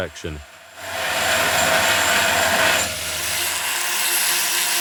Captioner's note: grinding sound